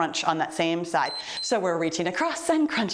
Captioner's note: timer beeps